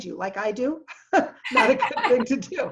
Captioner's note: laughing